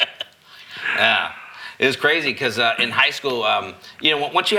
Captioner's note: laughing